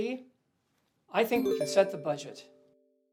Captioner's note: cell phone chime